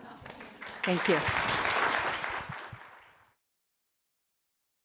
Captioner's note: crowd clapping